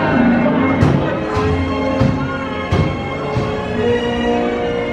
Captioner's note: loud bangs